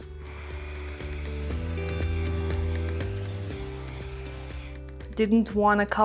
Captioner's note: blow-dryer whirring; upbeat music continues